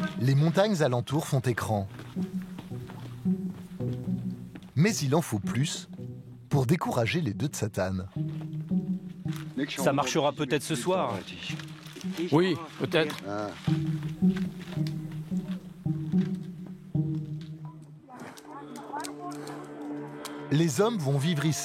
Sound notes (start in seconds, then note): 9.4 foreign spoken audio